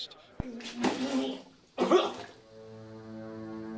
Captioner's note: man coughing; low tense music